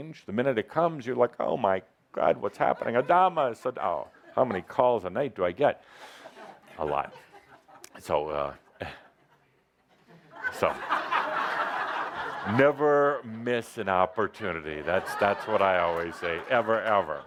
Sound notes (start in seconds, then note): 9.7 laughter as he pauses and grins for a photo